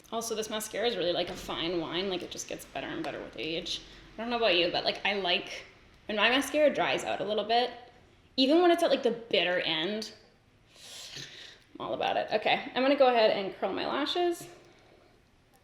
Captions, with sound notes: Also, this mascara's really like a fine wine. Like it just gets better and better with age. I don't know about you, but when my mascara dries out a little bit, even when it's at like the bitter end, (inhales sharply) I'm all about it. Okay, I'm gonna go ahead and curl my lashes